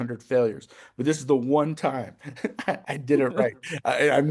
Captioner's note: chuckles